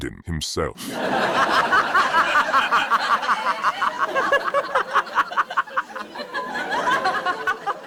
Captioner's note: audience laughing